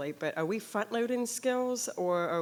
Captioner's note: none